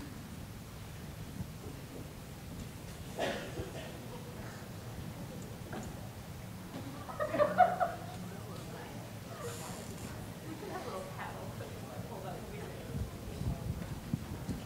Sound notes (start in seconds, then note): 6.7 group chattering